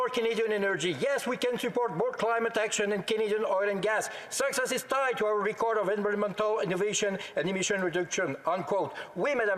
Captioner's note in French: voix de l'interprète